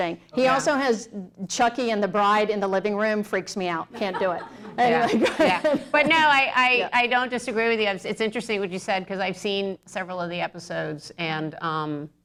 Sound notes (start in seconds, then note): 3.9 laughter